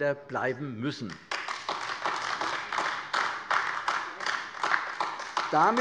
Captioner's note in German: Beifall AfD